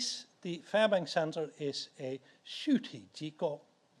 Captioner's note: speaks in foreign language